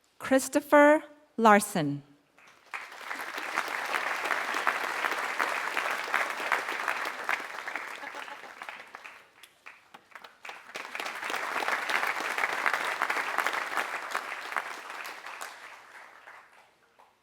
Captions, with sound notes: >> Christopher Larson. >> [APPLAUSE]